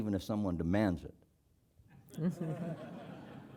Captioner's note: laugh